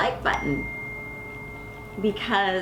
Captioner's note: bell dinging